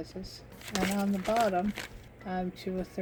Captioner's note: paper crinkling